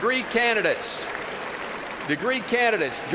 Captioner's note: applause